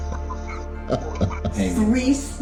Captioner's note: satisfied chuckle